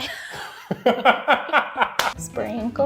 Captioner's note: laughs